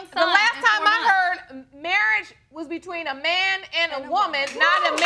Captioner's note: audience cheer